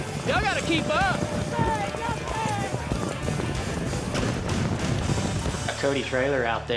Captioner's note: hoofbeats